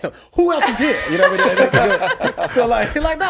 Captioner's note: laughs